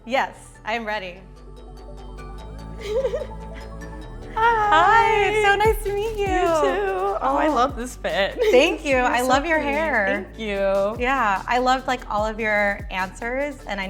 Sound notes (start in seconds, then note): 1.6 gentle uplifting music; 2.8 laughs